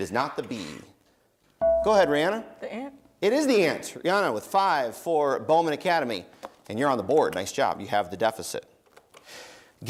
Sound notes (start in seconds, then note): 1.6 dinging